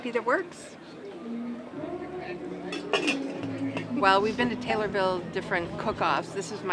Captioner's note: lid closing